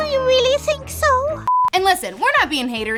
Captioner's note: beep